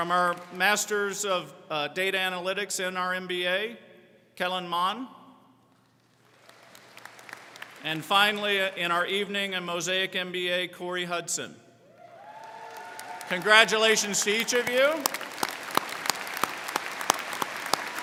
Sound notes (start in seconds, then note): 5.9 crowd clapping; 11.9 crowd cheering; 15.1 crowd clapping